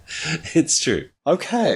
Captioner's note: laughs